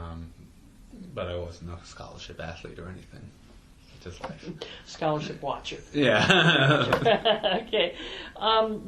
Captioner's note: both laugh